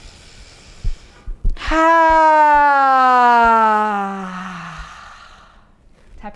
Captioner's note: inhaling and sighing